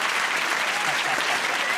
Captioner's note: applause